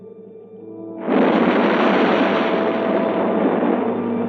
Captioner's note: waves crashing